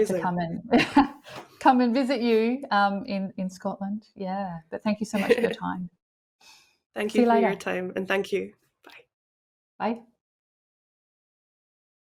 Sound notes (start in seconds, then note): 0.5 laughs